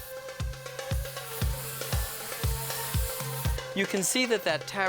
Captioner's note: food sizzling